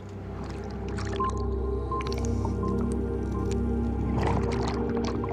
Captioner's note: beeping sound; underwater bubbling